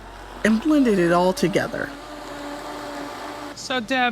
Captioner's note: blender running